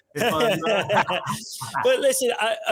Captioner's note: all chuckles